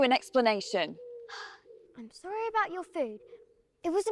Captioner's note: sighing